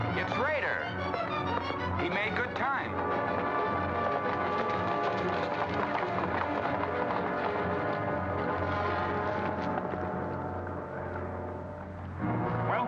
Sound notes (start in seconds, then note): 0.0 dramatic music; 4.1 hooves pounding; 8.0 dramatic music